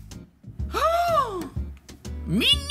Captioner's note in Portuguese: faz som de surpresa